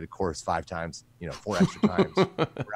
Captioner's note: laughs